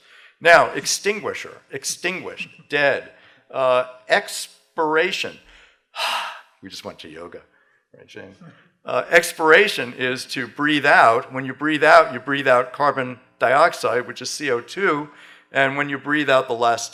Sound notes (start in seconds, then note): 5.9 exhales